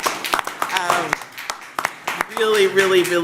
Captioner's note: applause